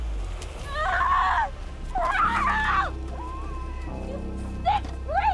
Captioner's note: screams